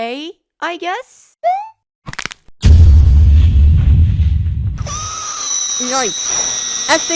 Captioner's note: jumps, Snaps, BOOM! Scream